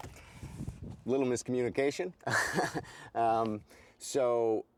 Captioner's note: chuckles